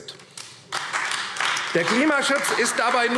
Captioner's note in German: Beifall AfD